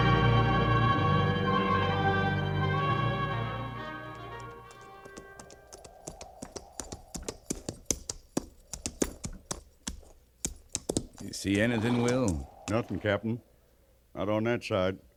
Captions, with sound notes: (dramatic music) (tapping) You see anything, Will? Nothing, Captain. Not on that side.